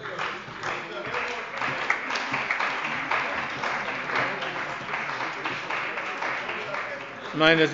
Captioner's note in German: Beifall bei der CDU